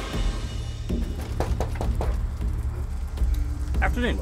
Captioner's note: door knocking